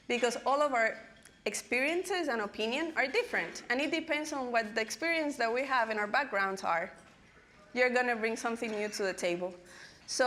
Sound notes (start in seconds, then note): none